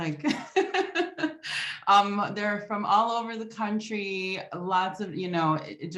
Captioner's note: laughs